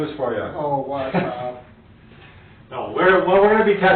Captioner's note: chuckling